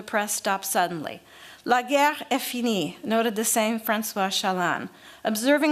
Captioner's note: french